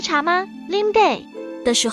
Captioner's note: in Taiwanese